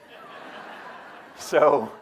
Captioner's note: audience laughing